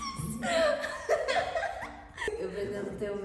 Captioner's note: laughing